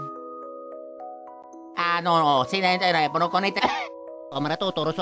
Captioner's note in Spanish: Cof